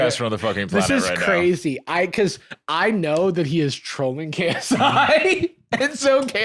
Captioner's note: laughs